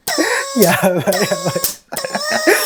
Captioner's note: laughs